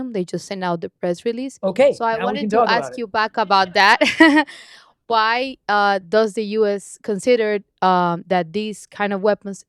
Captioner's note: laughter